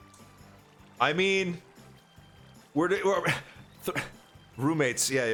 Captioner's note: stutter